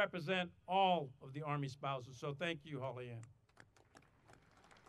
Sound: audience applauding

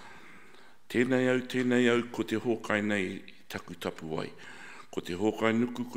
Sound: speaking in foreign language

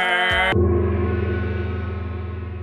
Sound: gong!

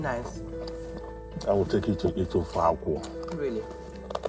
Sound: foreign language

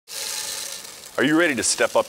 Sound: malt pouring

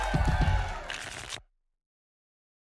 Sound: tickets shuffling

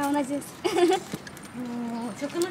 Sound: laughs

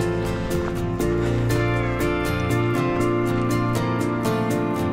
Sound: footsteps crunching

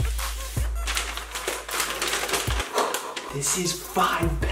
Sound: paper crinkling

